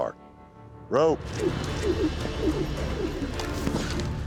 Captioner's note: ropes swirling through air